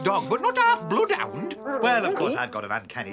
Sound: woof!

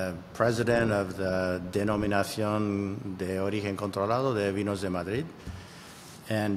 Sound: speaking foreign language

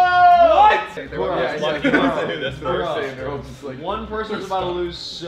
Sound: members whooping; shouting

